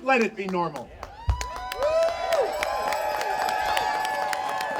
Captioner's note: audience cheering